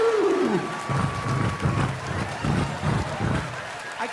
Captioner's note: roaring; imitating hoofbeats